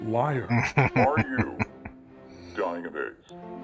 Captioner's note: chuckling